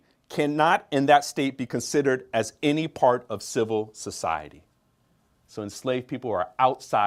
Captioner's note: none